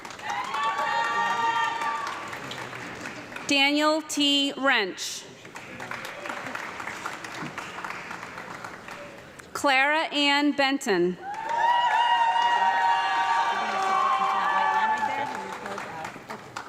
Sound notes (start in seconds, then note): 0.0 audience clapping and cheering; 5.3 audience clapping; 11.2 audience clapping and loud cheering